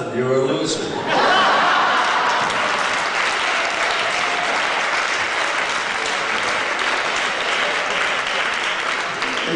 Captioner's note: laughter and applause